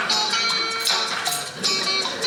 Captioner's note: audience laughing; rings click